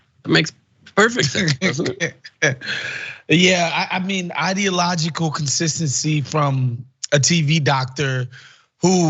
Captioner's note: laugh